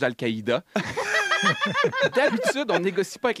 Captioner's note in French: rires